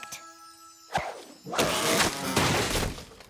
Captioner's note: whoosh!; crash!